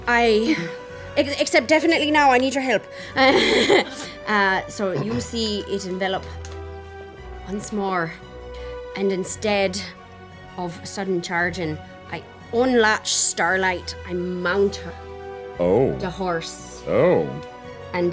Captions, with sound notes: Except definitely now, I need your help. (laughs) So you see it envelop once more, and instead of Sudden Chargin', I unlatch Starlight and mount up the horse. - Oh.